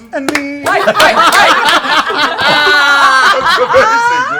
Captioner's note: laughter